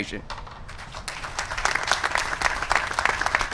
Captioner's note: applause